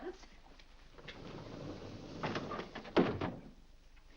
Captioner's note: doors sliding shut